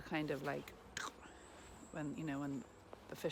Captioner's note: clicks tongue